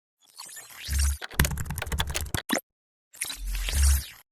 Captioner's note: keyboard clicking